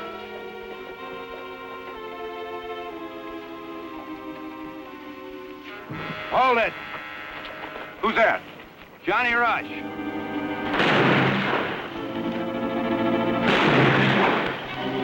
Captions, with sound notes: Hold it. Who's that? Johnny Rush. [GUNFIRE]